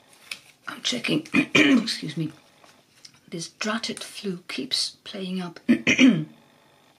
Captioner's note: coughs excuse me